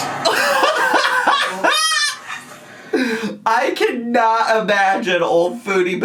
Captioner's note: laughs